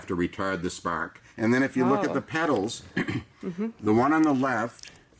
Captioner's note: coughs